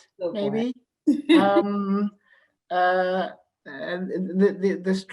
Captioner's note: laughs